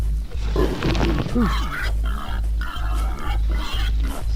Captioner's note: wild boars grunting